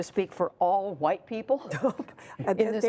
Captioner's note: laughter